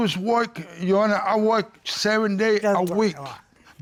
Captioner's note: mumbles